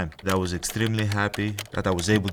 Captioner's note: keyboard clicking